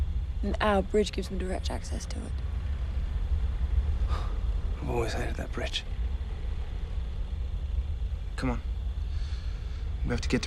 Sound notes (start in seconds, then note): 3.1 scoffs